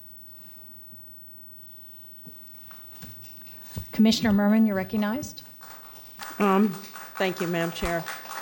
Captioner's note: applause